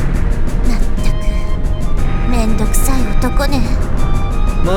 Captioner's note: sigh